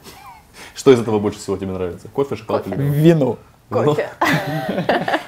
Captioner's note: laughs